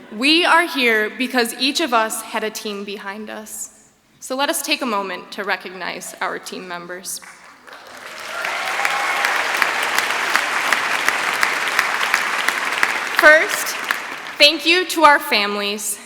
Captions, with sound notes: We are here because each of us had a team behind us, so let us take a moment to recognize our team members. [ Applause ] First, thank you to our families.